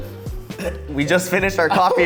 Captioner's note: clearing throat